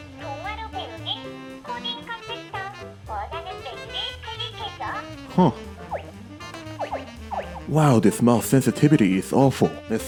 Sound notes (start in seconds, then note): 7.2 icon hover noises